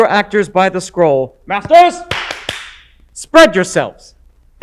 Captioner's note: clap clap clap